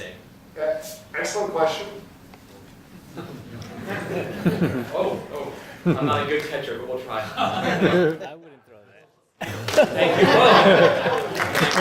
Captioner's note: laughter; laughter, surprise, applause